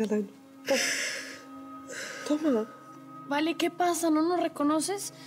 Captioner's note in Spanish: sollozos